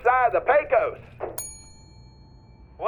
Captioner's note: bell dings